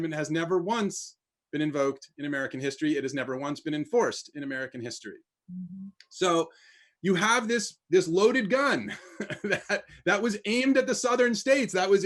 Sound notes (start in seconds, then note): 9.2 laughs